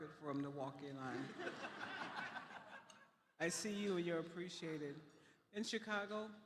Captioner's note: laughter